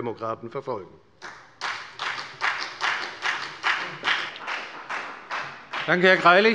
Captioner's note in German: Beifall bei der FDP